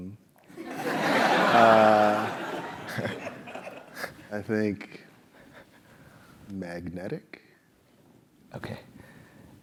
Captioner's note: laugh